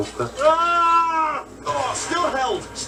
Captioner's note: Wheatley Screams